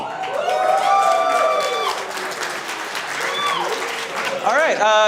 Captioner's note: audience clapping and cheering